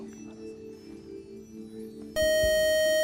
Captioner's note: buzzer